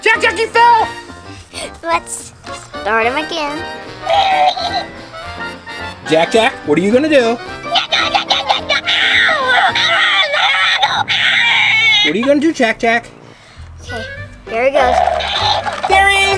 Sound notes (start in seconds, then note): 3.2 laughs; 7.6 angry baby yelling